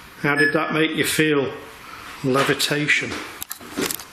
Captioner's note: beeping